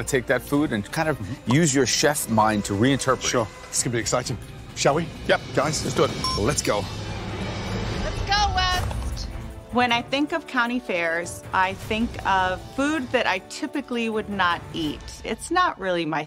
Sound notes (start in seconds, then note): none